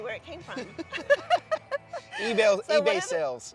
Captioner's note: both laughing